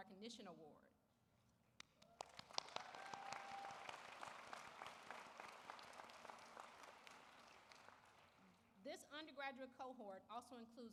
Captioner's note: applause